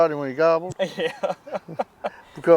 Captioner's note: laughing